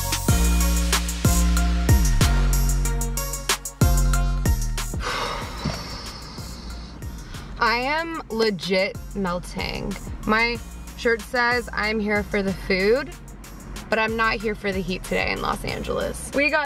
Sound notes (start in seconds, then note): 5.0 sighs